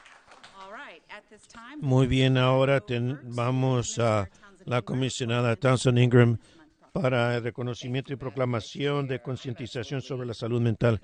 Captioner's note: applause